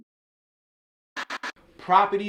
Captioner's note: soft static sound